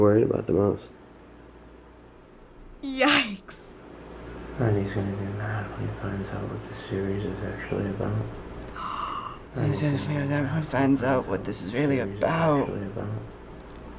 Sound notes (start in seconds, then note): 4.5 Shane, mumbling; 8.7 gasps; 9.5 mumbles like Shane